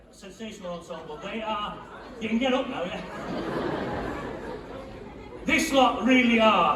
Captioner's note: laughter